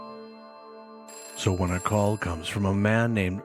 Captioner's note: phone rings